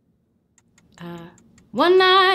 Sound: timer ticking

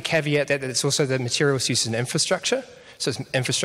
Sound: none

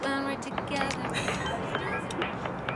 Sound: Seola's pleasant laughter

